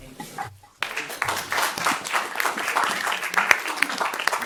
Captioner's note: audience clapping